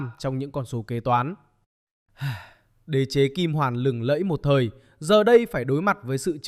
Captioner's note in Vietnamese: thở dài